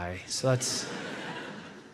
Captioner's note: audience laughs